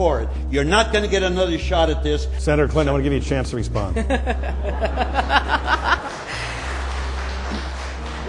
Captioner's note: laughs uproariously